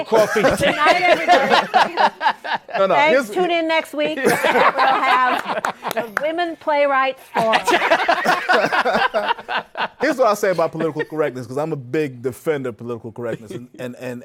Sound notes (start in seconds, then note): 1.6 laughter; 7.3 laughter